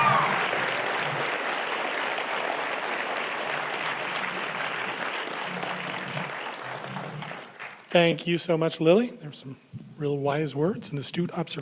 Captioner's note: applause